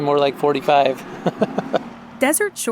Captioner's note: laughter